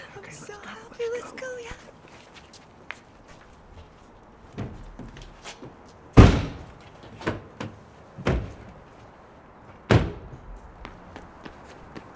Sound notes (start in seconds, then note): 6.2 trunk closes; 6.2 car door opens, closes